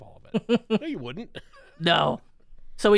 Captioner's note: laughs